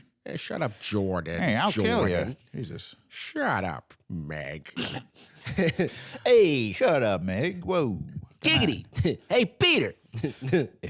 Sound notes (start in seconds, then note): 5.2 snorts, chuckles; 10.2 chuckles